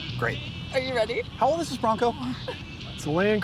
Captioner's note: laughs